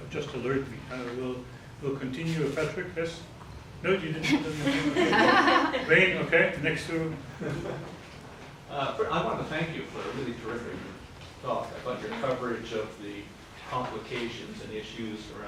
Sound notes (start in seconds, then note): 4.1 women laugh